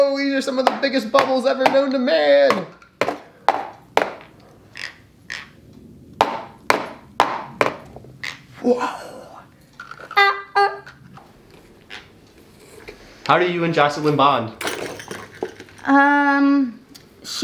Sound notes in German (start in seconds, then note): 3.4 Becher klopft auf den Tisch; 4.7 knirscht mit den Zähnen; 14.5 Gegenstände klappern